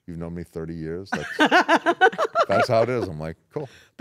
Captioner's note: laugh